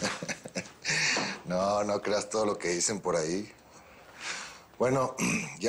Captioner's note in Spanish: Ríe